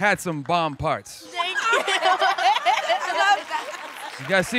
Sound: laughing

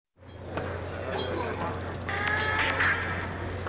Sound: chatter

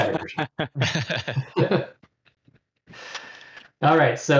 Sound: laughter

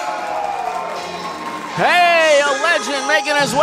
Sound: audience applauds and cheers

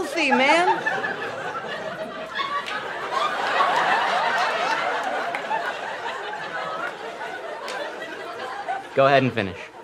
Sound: laughter

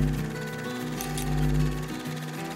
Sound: light hums; scissors clip; light hums

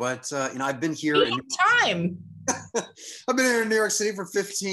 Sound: laughs

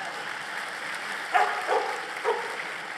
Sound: applause and dog barking

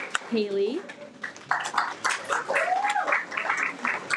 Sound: everyone applauds

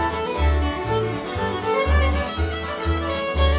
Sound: none

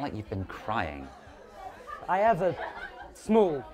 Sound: gasps

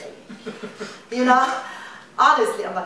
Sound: laughter

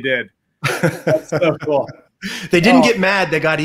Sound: laughs

